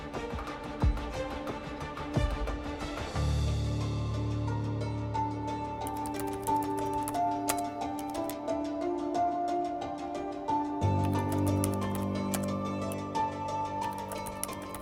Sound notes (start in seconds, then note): 3.6 slow music; 5.8 keyboard clacking